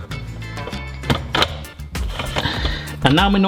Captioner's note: upbeat music continues; spiralizer clicks